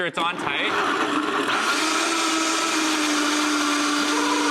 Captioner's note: blender blending